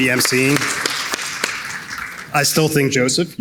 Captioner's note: audience clapping